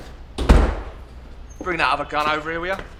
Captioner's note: door slamming